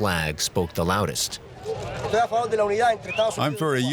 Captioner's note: speaking in Spanish